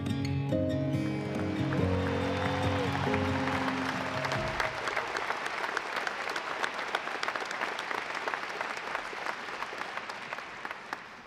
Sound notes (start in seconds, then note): 2.1 audience applauding